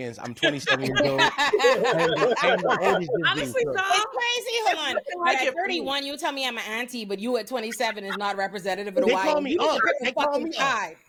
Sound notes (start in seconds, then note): 3.1 laughter